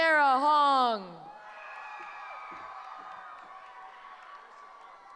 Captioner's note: cheering